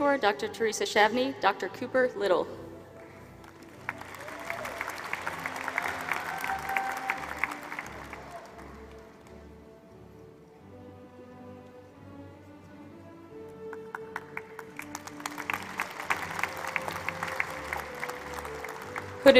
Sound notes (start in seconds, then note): 3.4 applause